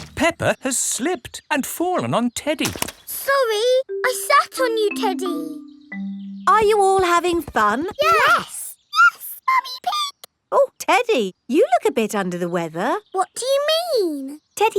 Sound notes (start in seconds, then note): 9.0 in high-pitched voice; 13.4 in normal voice